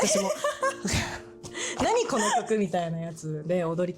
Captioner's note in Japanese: 笑い